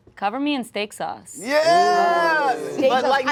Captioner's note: group ooh-ing